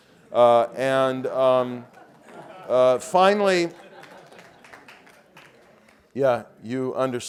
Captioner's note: laugh